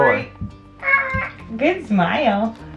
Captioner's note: cries out